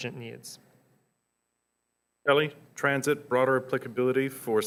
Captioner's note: voiceover